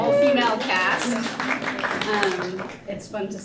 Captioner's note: applause